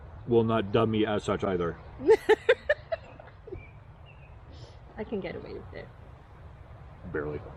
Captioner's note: laughing